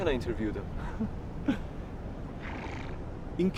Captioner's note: laughing